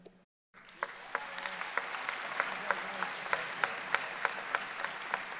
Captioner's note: audience applauding